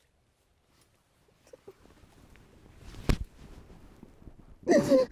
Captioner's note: crying